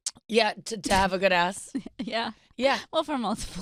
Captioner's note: laughing